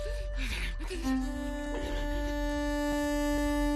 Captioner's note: gasping; panting